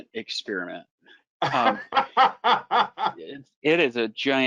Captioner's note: laughs